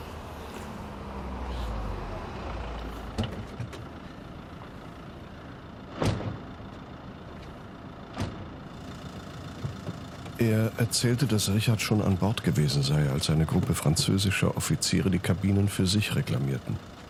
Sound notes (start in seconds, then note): 0.2 vehicle approaching; 3.4 car door opens; 5.9 car door closes